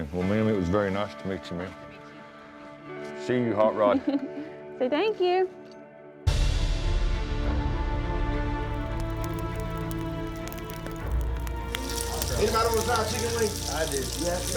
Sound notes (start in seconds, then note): 8.7 fire crackling